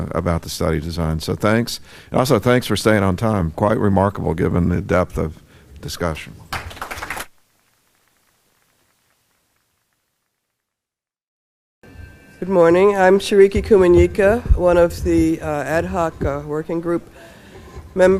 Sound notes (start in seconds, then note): 8.0 applause